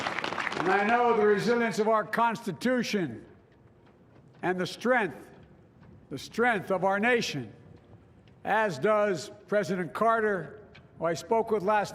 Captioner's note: applause